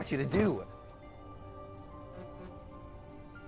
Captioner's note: cell phone alerts